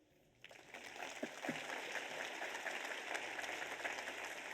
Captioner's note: audience applauds